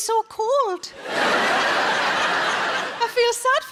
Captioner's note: audience laughs